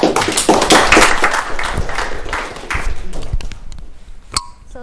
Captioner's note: applause